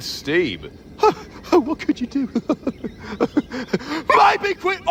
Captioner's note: mutters; chuckles